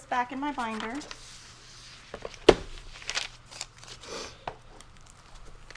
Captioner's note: papers rustling